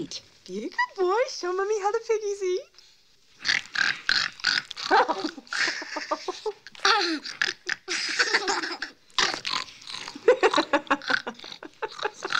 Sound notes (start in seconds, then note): 3.4 oinking; 4.8 chuckling; 6.9 oinking; 8.3 giggling; 9.2 oinking; 10.1 laughing; 12.2 oinking